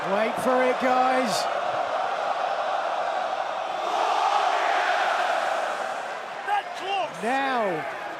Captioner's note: crowd cheering